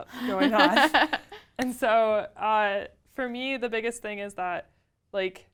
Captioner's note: laugh